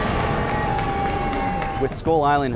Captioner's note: audience applause